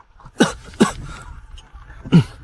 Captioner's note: cough, cough